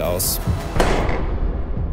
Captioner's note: crashing